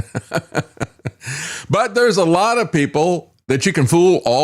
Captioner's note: laughs